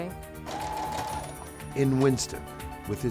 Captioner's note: sewing machine whirs